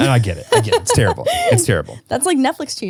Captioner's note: laughing